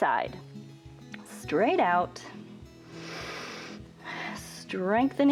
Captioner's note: inhales